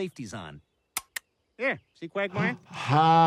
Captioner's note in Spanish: clics de pistola